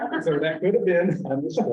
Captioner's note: laughter